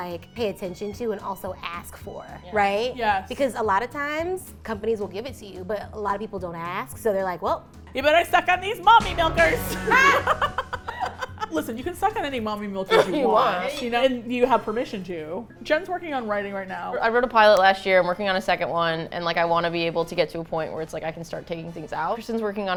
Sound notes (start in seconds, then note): 9.8 all laugh; 13.4 laughs